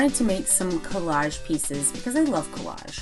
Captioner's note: none